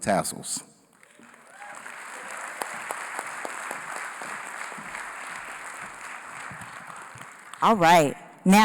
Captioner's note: applause